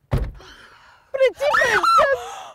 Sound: screaming

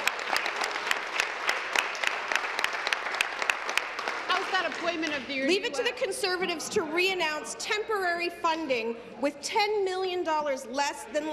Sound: applause

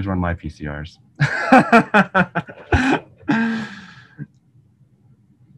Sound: laughing loudly

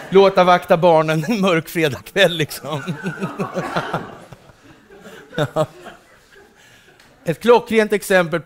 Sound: laughter

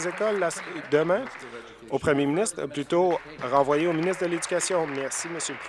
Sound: applause

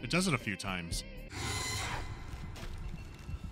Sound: sharp shriek

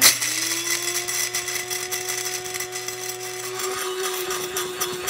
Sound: grinder whirring

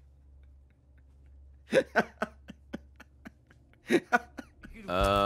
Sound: laughs

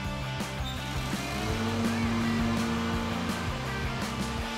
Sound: lawnmower starts

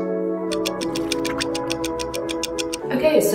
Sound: ticking

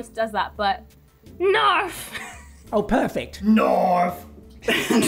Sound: laughs

